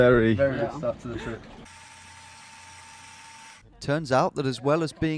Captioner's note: tape machine whirring